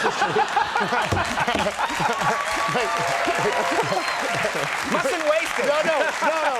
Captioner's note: audience laughing and clapping